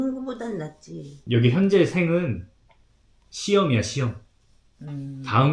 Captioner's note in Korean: 콧방귀